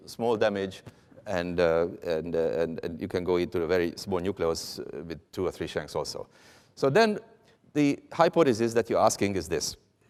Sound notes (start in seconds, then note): none